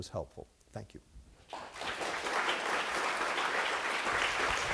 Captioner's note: applause